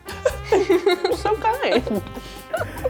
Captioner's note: laughs